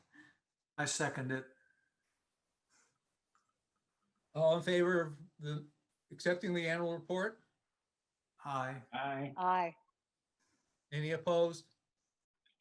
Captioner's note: silence